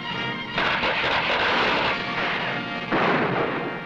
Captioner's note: tense music; gunshots blasting